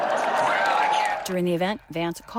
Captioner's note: cheering